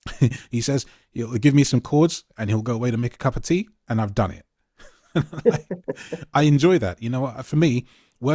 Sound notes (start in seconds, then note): 5.1 laughs